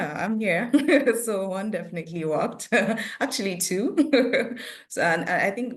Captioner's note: chuckles; chuckles